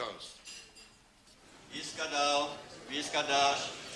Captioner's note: Yiddish